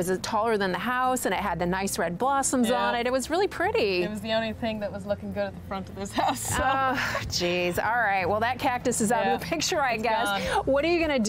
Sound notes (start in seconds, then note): 6.1 laughs